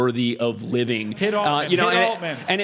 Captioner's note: laugh